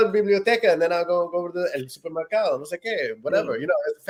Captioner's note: speaking in Spanish; speaking Spanish